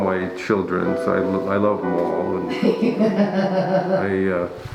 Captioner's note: laughing